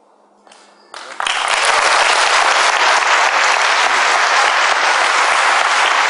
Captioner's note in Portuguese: aplausos